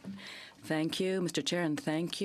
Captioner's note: speaking French